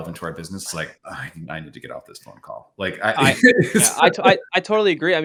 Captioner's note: laughs